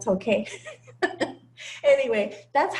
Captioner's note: laugh